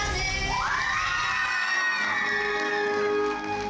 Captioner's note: everyone cheering; triumphant music